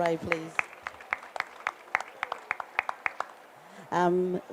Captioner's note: applause